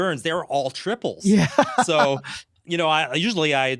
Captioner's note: laughing